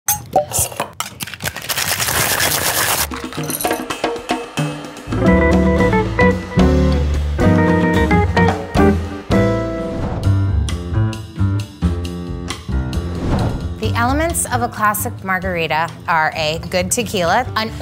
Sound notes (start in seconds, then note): 0.0 corks popping; 1.6 drinks sloshing; 3.0 upbeat percussive music; 10.3 upbeat jazzy music